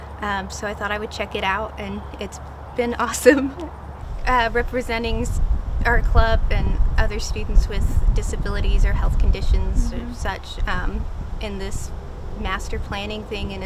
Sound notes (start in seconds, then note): 3.1 laughter